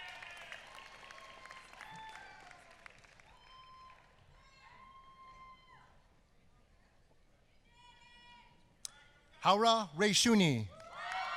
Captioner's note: applause